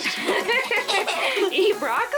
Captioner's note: laughing